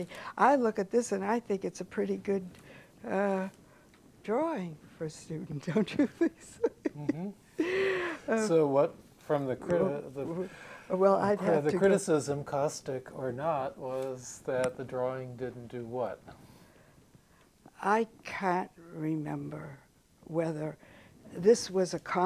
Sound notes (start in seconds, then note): 6.0 laughs